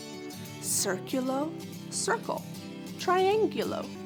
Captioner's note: speaking in foreign language